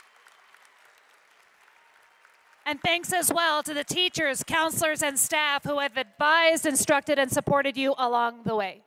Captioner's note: applause